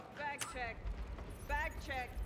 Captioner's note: click